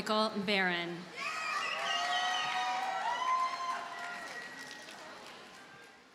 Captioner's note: audience cheers and applauds